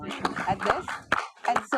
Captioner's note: audience applauding